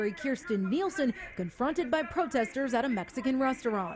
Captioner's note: speaking in spanish